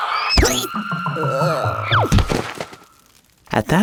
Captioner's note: child groans and hits the floor